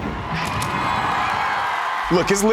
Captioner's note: audience cheers